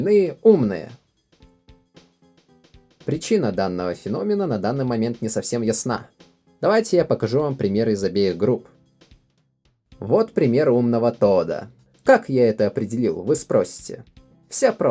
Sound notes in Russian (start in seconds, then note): none